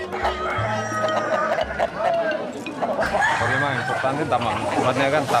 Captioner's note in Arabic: صياح الديكة